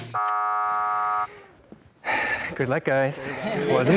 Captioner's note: buzzer buzzes; sighs